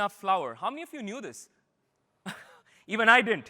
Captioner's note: laughter